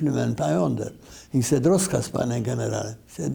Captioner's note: speaking in Polish